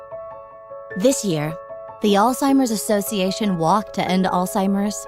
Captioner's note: voiceover